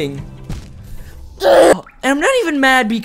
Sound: scream

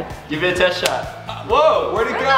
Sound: firing

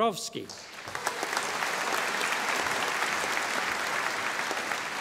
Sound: audience applauding

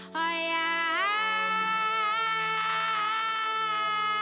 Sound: melodic yelling

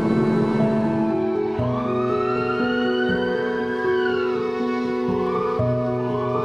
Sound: emergency vehicle siren ringing

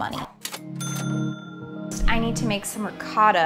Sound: cash register dinging

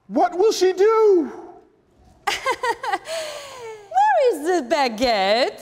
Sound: laughing

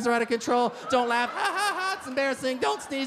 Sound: fake laughs

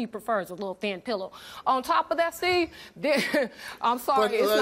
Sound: laughs

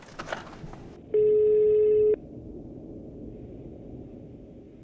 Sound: phone dialing

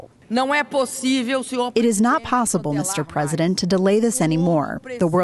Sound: through translator

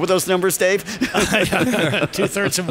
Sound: panelists laugh

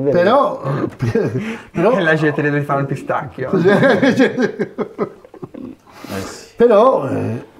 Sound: laughts

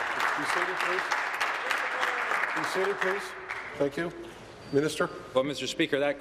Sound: applause

